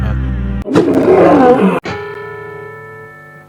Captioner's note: roars